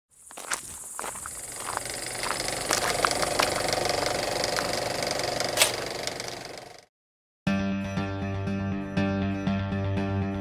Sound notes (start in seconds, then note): 0.2 footsteps; 1.4 film strip running; 7.6 serious music